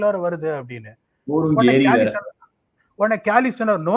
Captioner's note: mimicking PDogg’s slang